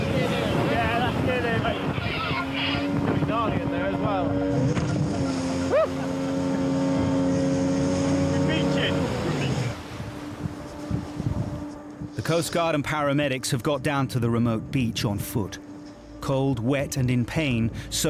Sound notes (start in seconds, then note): 5.8 rescuer exclaims; 7.0 engine revs; 10.2 dramatic music